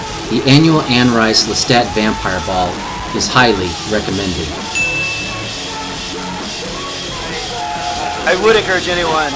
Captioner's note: check ding sound